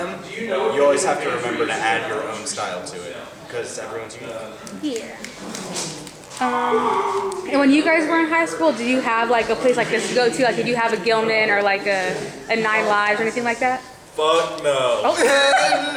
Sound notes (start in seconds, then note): 5.6 snapping